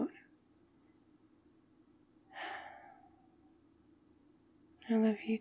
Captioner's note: sighs